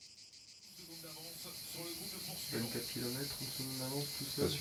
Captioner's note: indistinct chatter